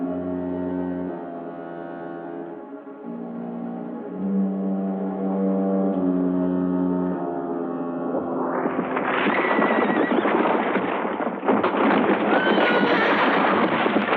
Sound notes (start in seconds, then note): 8.1 horse neighing; 8.6 rocks rattling; 12.4 horse neighing